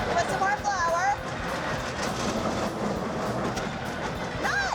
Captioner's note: machine grinding sound